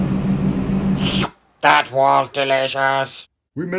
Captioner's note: licking lips